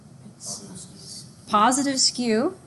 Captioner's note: students mumbling